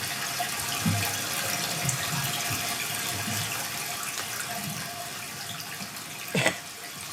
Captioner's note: water trickling continues